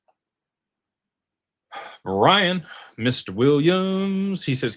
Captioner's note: sighs